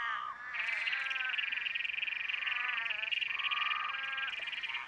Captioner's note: croaking, chirping